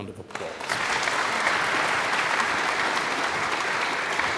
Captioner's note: audience applauds